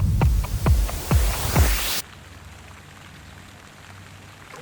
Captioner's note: water falling